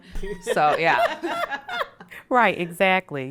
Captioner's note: all laugh